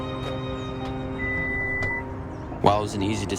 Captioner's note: alarm beeps